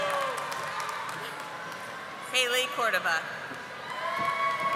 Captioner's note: audience applauding